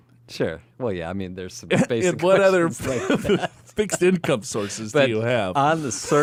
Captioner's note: laughs